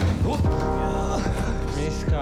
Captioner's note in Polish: jęki